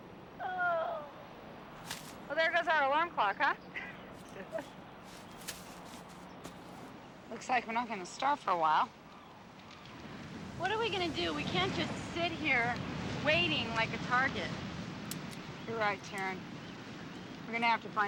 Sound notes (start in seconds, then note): 4.2 laughs